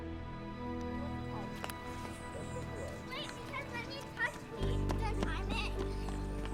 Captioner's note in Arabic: أطفال يتحادثون ويلعبون